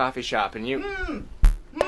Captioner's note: muffled shouts